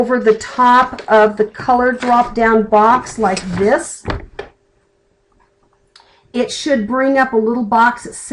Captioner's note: clicking